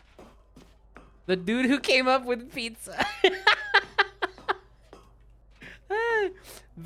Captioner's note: laughs